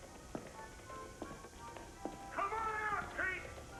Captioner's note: footsteps approaching